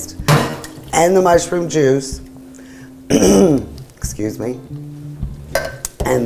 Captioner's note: clears throat